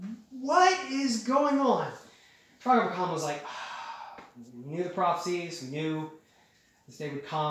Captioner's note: sigh